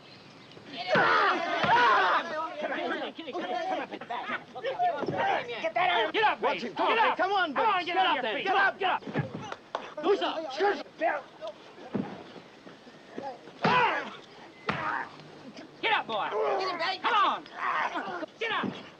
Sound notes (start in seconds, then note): 0.6 grunting and screaming; 3.0 crowd heckling; 9.6 speaking japanese; 13.3 grunting